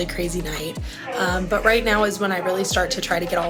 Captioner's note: voice announcing overhead